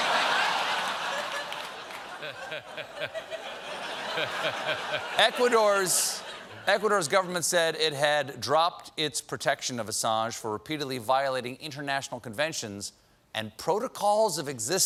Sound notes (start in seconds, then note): 0.0 laughter